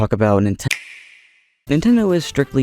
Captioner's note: Nintendo Switch click